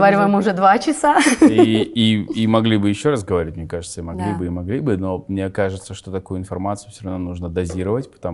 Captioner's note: laughs